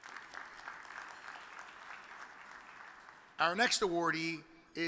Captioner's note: audience applauds